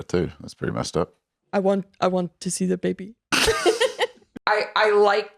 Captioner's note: laughs